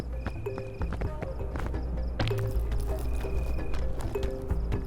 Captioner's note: crickets chirping; footsteps clopping; upbeat music